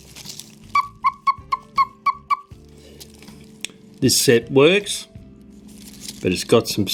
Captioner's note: cuckoo sound